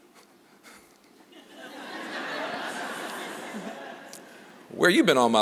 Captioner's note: laughter